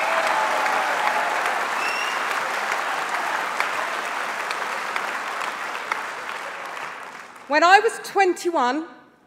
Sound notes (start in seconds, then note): 5.3 applause